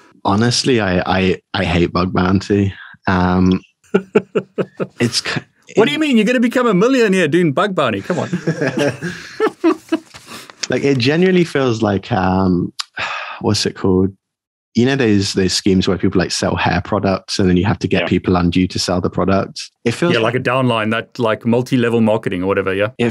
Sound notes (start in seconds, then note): 3.8 laughing; 8.0 both laughing